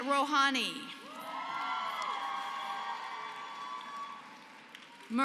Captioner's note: applause